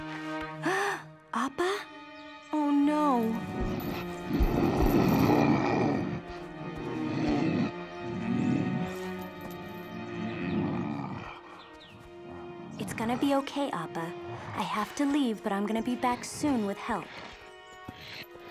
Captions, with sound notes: [gasping] Appa? Oh, no. [growling] [growling continuing] [groaning, growling] It's going to be okay, Appa. I have to leave, but I'm going to be back soon with help.